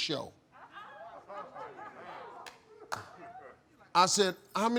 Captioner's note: audience murmuring